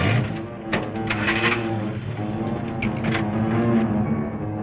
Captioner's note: car engine revving